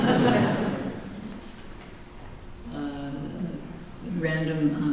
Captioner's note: laughter